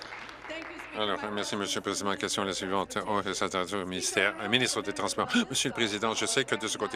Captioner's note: applause